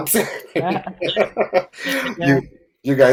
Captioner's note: laughter